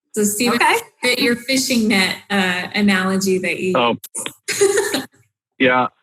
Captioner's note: laughs